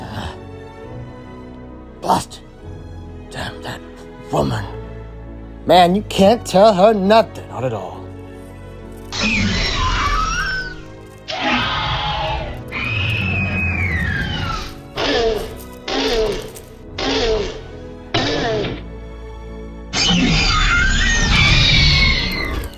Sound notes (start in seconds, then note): 9.0 Hermes screeches